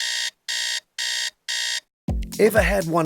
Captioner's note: alarm goes off